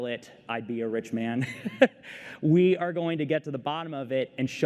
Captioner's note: laughter